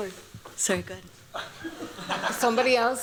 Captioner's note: laughter